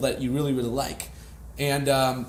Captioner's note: none